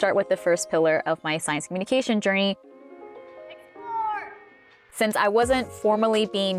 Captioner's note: yelling from afar